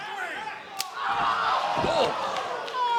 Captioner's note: crowd exclaiming